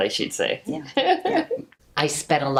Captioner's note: laughs